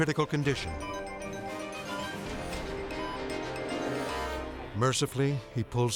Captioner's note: machine beeping